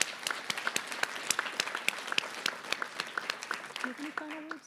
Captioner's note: applause